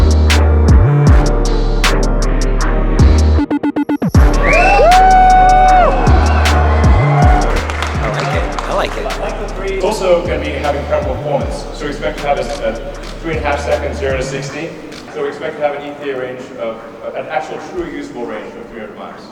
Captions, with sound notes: (crowd cheers) - I like it, I like it. - It's also gonna have incredible performance, so expect to have a three-and-a-half second zero to 60. Expect to have an in theory range, an actual, true, usable range of 300 miles.